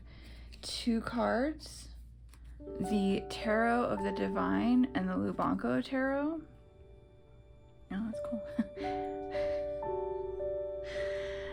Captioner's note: laugh